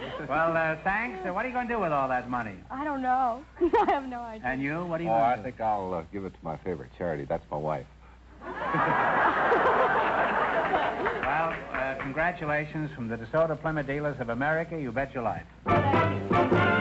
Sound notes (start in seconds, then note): 3.6 chuckles; 8.4 audience laughter